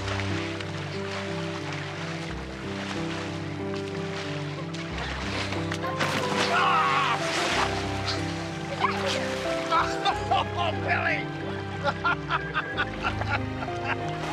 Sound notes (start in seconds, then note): 9.5 laughing